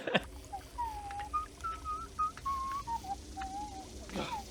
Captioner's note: smug whistling